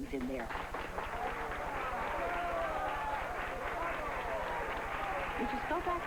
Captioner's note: loud applause and bravos!